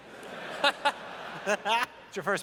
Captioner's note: laughter